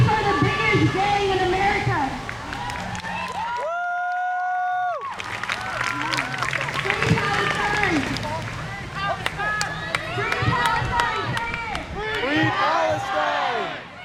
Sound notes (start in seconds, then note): 2.4 crowd cheers; 8.3 crowd; 11.9 crowd